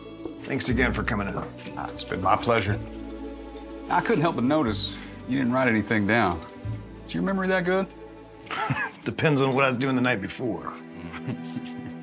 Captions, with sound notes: THANKS AGAIN FOR COMING OUT. OH, IT'S BEEN MY PLEASURE. I COULDN'T HELP BUT NOTICE... YOU DIDN'T WRITE ANYTHING DOWN. IS YOUR MEMORY THAT GOOD? [LAUGHS] IT DEPENDS ON WHAT I WAS DOING THE NIGHT BEFORE.